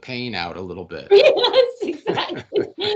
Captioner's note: laughing